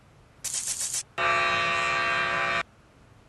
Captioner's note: buzzer